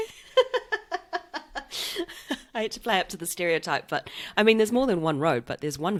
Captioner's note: laughs